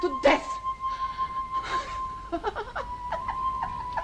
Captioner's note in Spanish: Risas